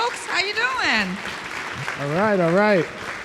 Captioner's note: audience clapping